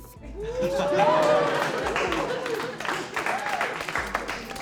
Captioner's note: cheers and applause